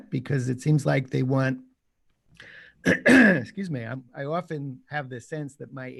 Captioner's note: coughs